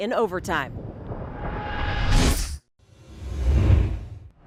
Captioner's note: air whooshes